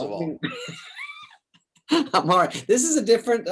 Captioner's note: David laughs